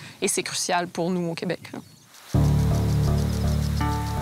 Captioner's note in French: bruit des gicleurs